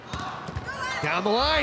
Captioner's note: ball thumping